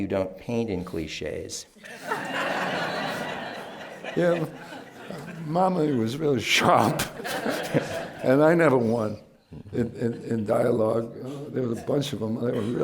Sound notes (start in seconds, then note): 1.8 laughter; 7.5 laughs